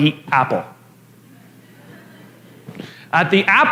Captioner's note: La audiencia se ríe